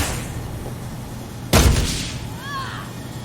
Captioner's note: whack